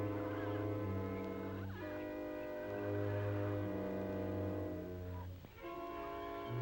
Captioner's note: mysterious music; animals calling